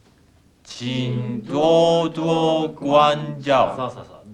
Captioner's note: speaking Chinese